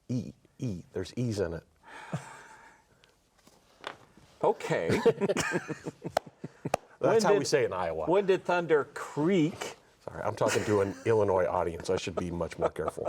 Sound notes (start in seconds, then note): 4.9 everyone laughs